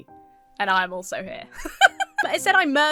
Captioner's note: laughs